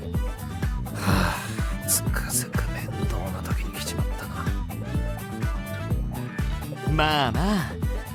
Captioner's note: sighs